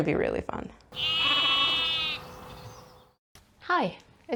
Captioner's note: sheep noises